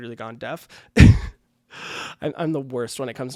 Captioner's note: laughing